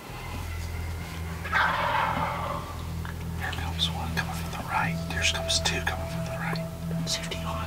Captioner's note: whispering